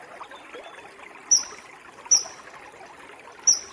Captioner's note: chirping continues